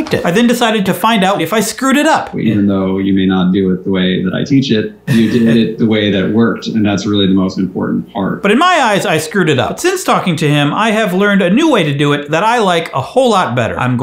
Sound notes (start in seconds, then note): 5.0 laughs